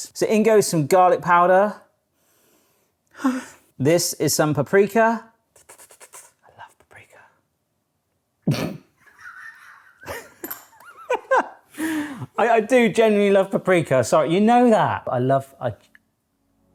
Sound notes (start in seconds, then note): 5.8 slurps; 9.0 laughs